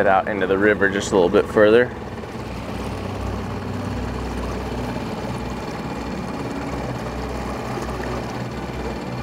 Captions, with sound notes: We'll head out into the river just a little bit further. (engine chugging) (water sloshing)